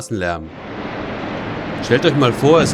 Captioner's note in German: Laute Straßengeräusche